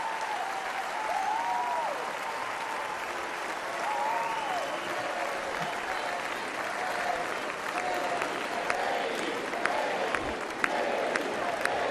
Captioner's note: cheers and applause